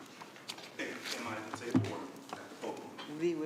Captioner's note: speaking quietly